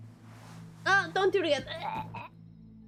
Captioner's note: gags